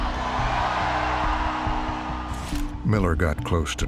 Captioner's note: cheers